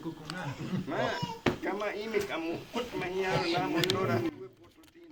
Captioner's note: speaking Yanomami